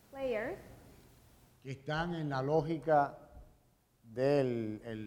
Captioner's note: speaking in Spanish